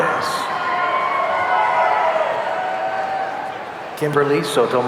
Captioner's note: audience cheering